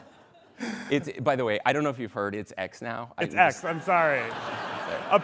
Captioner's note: laughter